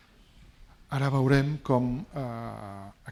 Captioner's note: speaking spanish